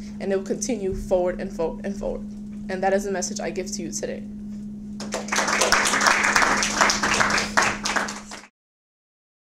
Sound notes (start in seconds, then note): 5.0 audience claps